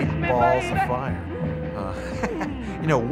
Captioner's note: laughs